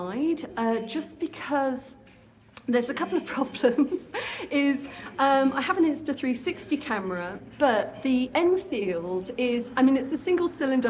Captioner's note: laughing